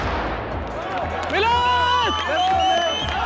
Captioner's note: cheering